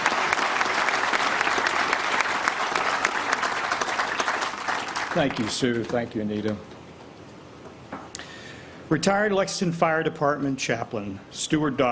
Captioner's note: applause